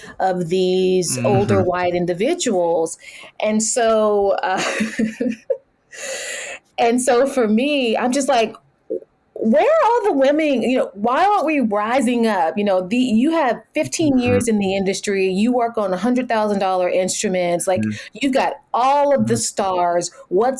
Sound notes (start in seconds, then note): 4.4 laughs